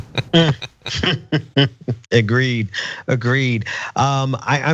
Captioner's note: laugh